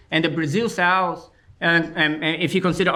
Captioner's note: none